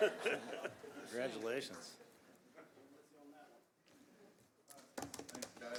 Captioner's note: laughter